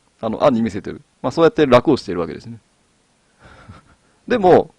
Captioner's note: laugh